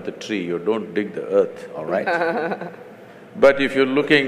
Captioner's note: Barkha Dutt Laughs